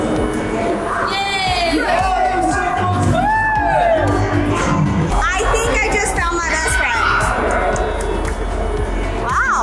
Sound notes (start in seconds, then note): 2.6 cheering